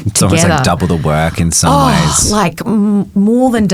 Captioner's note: sighs